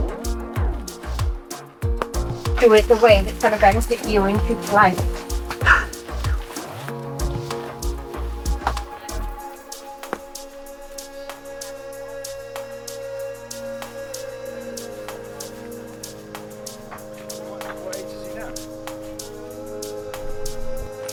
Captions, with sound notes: (upbeat music) It was the way that's gonna get you into this life. (laughing) (upbeat music)